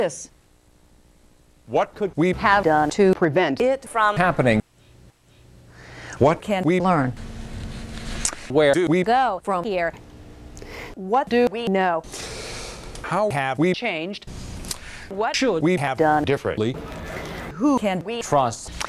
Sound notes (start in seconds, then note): 5.6 woman takes a breath; 10.6 woman takes a breath; 12.1 man takes a breath; 14.7 man takes a breath; 16.8 woman takes a breath